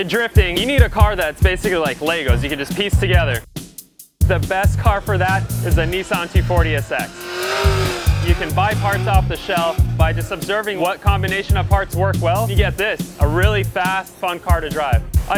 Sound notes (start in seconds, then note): 7.5 engine revving